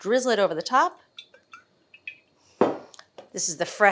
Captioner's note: oil glugging